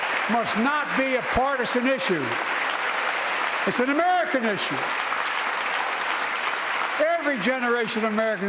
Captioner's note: applause